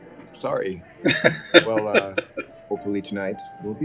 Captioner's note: laughing